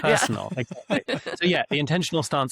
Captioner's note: laughs